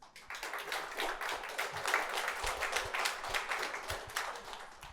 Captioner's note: attendee applauding